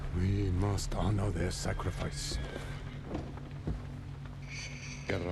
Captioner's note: none